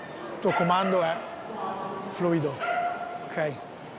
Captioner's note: speaks in Italian